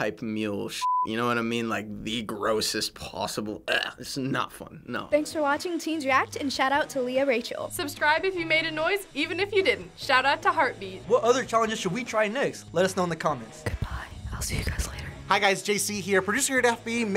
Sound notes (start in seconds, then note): 13.5 whispering